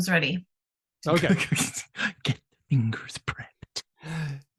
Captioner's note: laughs